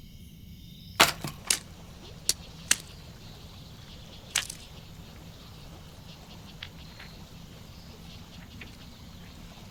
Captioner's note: water gurgles from the stream